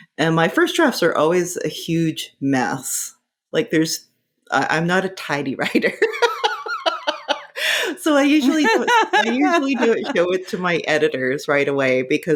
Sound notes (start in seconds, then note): 8.3 laughing